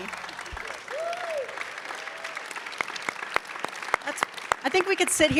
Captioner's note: audience clapping